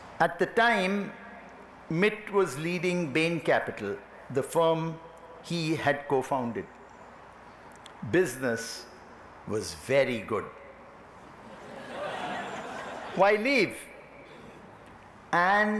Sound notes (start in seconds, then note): 11.4 laughter